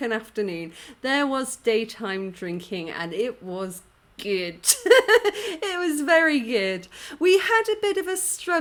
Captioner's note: laughing